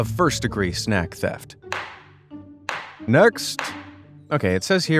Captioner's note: gavel strikes